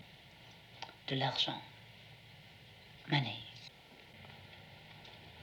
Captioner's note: foreign language